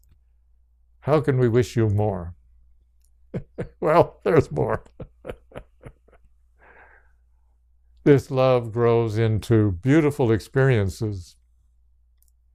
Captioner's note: laughs